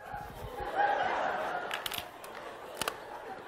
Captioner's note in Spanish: Clase ríe